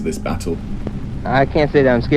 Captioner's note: soundbite of archived recording